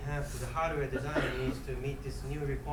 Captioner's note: coughing